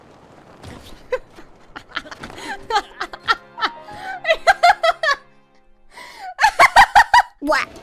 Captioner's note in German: Teuflisches Lachen